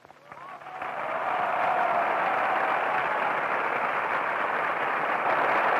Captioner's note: crowd cheering and applauding